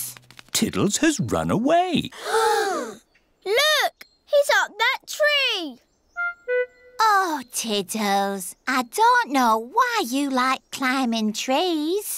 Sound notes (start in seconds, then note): 2.2 all gasp